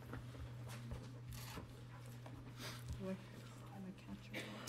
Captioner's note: low chatter